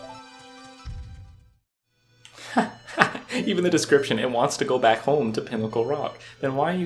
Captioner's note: laughs